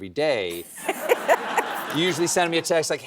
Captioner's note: laughs